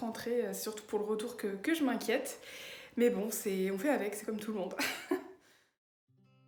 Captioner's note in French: rire